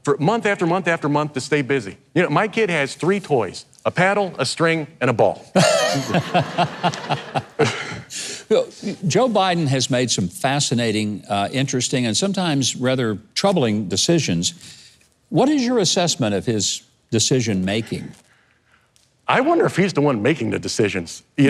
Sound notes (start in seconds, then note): 5.6 audience and host laughing; 7.8 chuckles